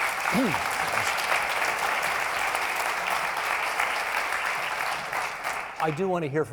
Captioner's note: applauding